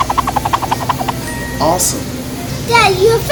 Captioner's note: cartoony swishing; magical ting